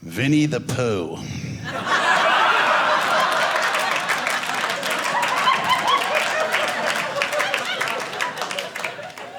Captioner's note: audience laughing